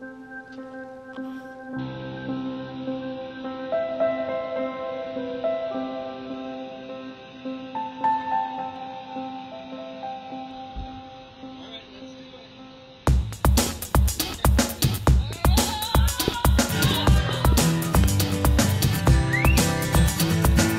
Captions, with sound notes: (atmospheric music) - Alright, let's do it. (yelling) (upbeat music)